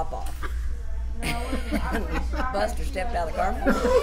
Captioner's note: laughs